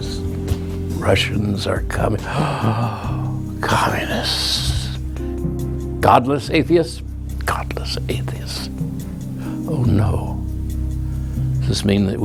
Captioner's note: gasp